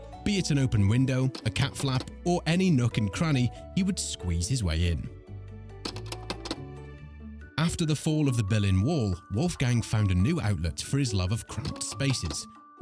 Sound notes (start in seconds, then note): 5.4 gentle music; 5.8 film clicks